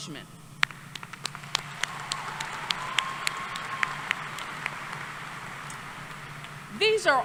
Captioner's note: applause